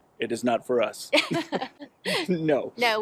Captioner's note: both laugh